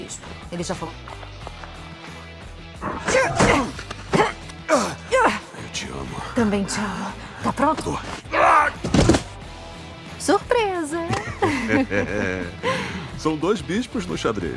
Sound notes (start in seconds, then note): 2.8 Hartley grunts; 2.9 The Bishop shrieks; 11.0 both chuckle